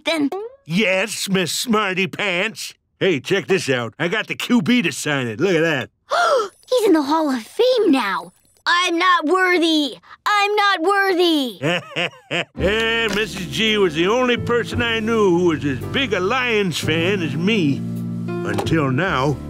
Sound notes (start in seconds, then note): 6.3 gasps; 11.6 laughing